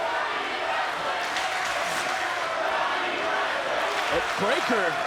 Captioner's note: crowd chants